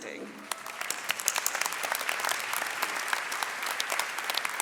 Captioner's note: audience applauding